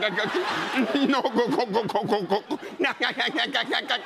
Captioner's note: laughing; crying; laughing